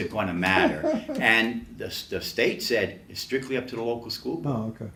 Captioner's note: laughs